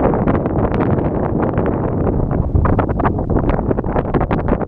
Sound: wind gusts

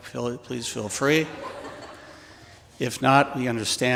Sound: audience laughing

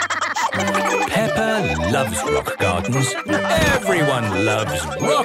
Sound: laughter

